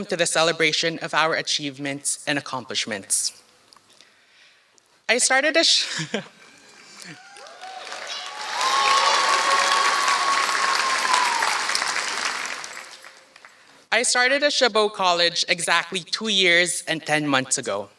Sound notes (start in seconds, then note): 7.1 applause